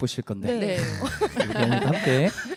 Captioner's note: 웃음